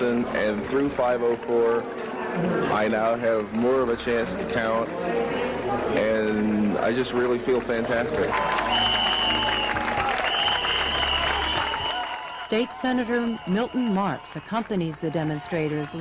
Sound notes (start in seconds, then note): 9.4 crowd Cheering